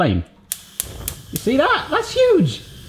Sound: ignition clicking

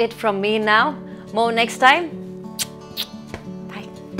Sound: kisses

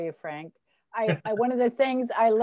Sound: laughs

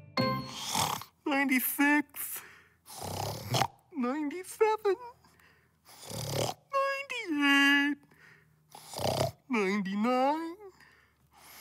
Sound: snoring

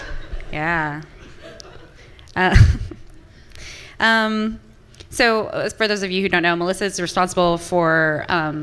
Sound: audience clapping and laughing; laughs

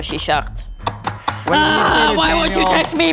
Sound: banging

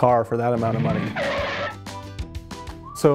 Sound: tires screech

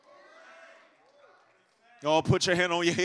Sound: congregation muttering in agreement

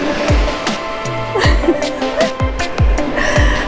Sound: laughing

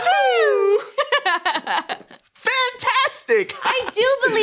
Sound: laughs

